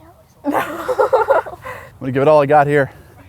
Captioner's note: laughing